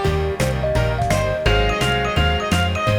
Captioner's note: applause